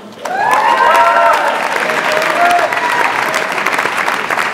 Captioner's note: audience applauds